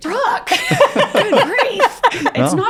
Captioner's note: laughs